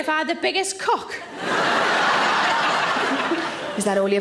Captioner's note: audience laughing